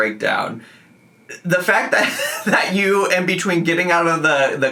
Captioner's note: laughing